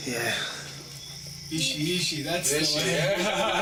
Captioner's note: speaking in Arri and Ahmaric languages